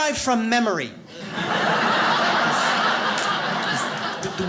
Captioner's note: audience laughs